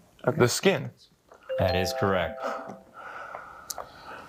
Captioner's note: bell dings